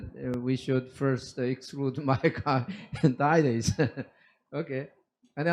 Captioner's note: laughs